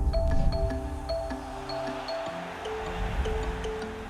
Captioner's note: crowd cheers